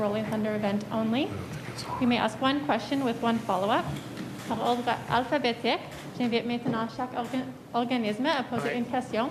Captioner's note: speaking French